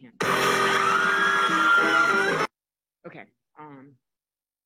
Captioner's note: crowd cheering